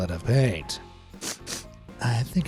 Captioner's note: sniffs